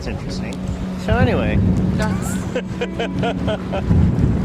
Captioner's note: laughs